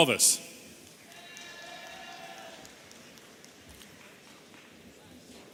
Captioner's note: audience cheering